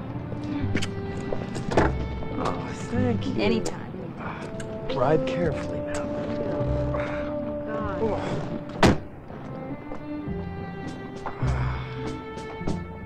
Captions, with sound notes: (light orchestral music) Aw, thank you. - Anytime. - Drive carefully, now. (softly groans) - Oh, God. (light orchestral music)